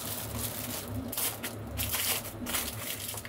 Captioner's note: crackling